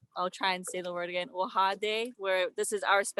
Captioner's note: speaking native language